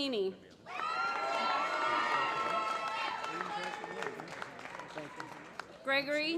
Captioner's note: applause